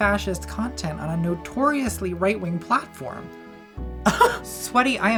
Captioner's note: laughs